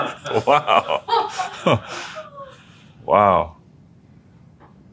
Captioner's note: laugh